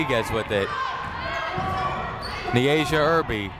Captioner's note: people shouting in the crowd